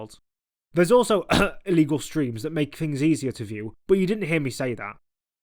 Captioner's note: cough